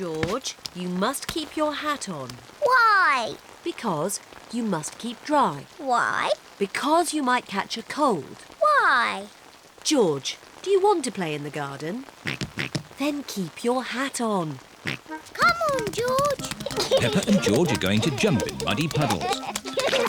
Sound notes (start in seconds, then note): 12.4 oinking; 15.1 oinks; 16.3 giggles